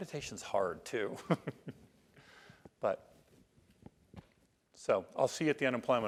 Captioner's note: laugh